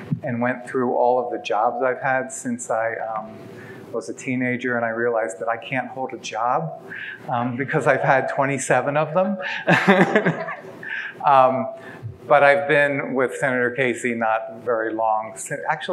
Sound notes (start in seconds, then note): 9.6 laughs